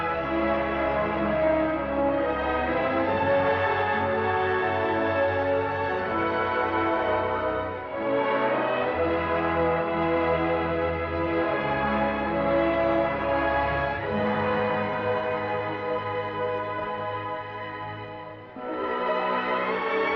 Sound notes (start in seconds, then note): 8.0 bell